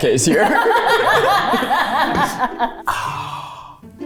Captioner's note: everyone laughs